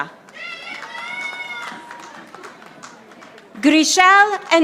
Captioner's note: audience applauding